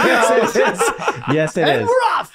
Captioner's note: group laughing